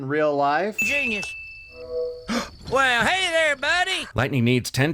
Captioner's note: gasp